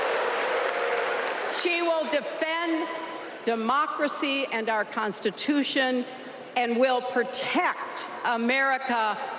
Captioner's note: applause